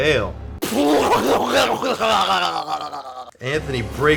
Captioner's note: sputters